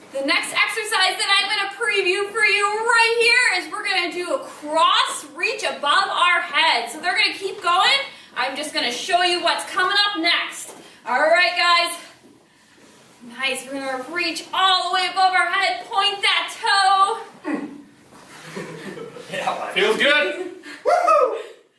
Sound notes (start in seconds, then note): 17.4 grunt; 18.3 chuckles